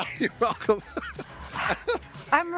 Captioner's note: laughter